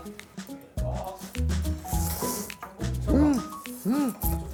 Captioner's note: slurp